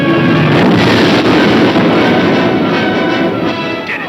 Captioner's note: dramatic music; explosion booming; men shouting